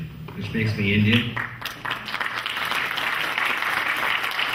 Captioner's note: clapping